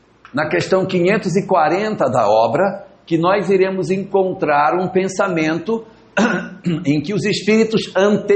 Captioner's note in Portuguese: limpando a garganta